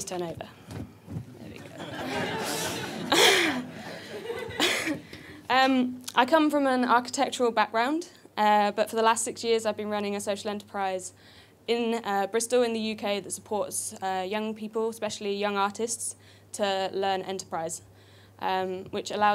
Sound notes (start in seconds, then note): 1.6 audience laughter; 4.3 laughs